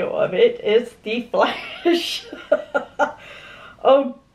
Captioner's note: laughs